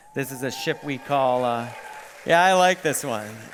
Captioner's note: cheering and applause